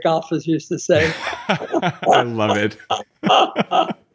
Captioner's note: laughing